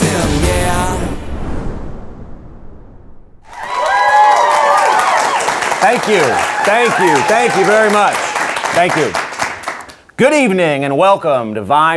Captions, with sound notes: (audience cheering) - Thank you, thank you, thank you very much. Thank you. Good evening and welcome to "Vibe 309."